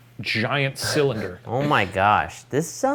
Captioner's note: laughs